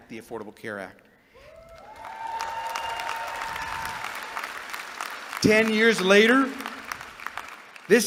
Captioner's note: applause